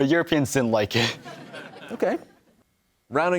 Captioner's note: laughter